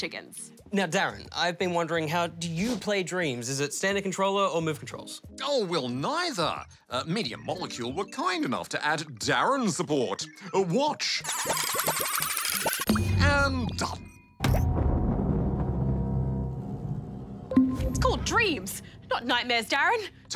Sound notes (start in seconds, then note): 11.9 whirring; 14.8 thunder rumbles